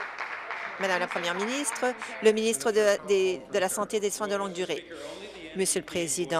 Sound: applause

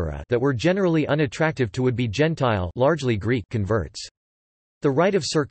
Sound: largely Greek

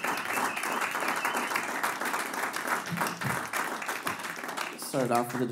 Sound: applause

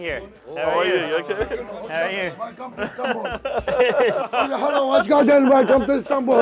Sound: laughs; speaking foreign language

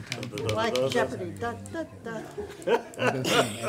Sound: laughing

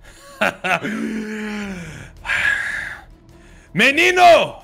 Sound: laughter

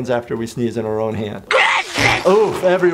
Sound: SpongeBob sneezes

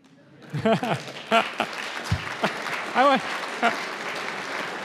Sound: audience applauds

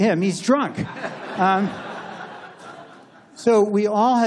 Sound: laughter

